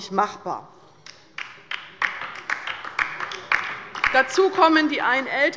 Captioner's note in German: Beifall bei der LINKEN